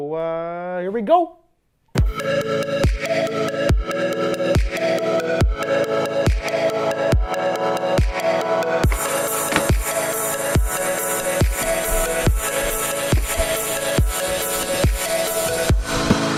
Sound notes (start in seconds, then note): 2.0 lively techno music; 8.8 handle clicks